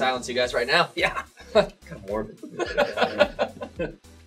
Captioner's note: laughs; whispers